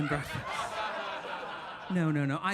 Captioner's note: audience laughing